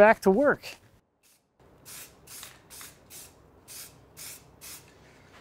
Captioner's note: spray hissing